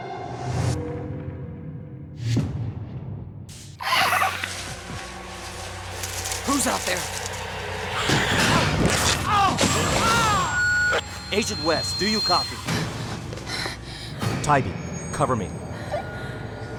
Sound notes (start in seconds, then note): 3.8 animal shrieks; 7.9 animal shrieks; 8.6 fabric tears; 13.4 breathing heavily